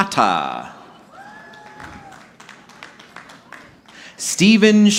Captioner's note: audience clapping